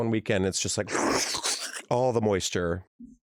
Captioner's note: slurping noises